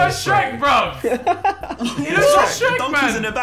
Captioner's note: laughing